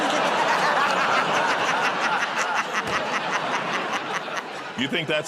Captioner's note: laughter